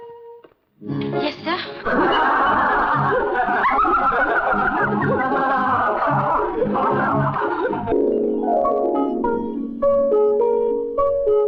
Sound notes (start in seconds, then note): 1.8 laughing